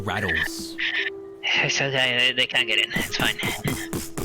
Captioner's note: breathless